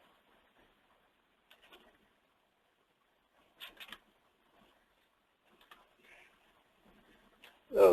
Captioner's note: silence